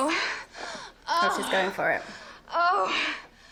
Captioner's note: moaning